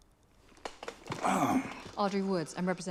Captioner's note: clears throat